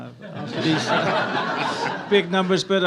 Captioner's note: audience laughs